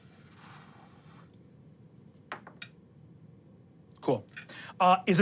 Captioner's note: dice rolling